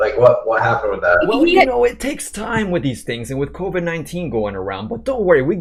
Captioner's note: ironically imitating Chris